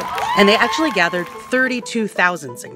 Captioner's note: crowd cheers